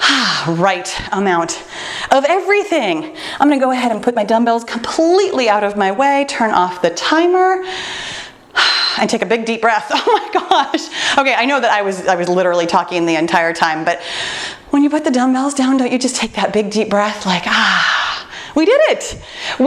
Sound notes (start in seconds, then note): 7.6 exhales